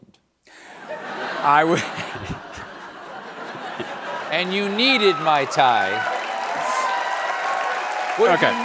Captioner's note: laughter